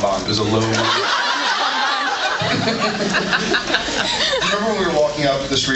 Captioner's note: laughs